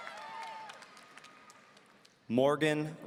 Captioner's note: audience applauding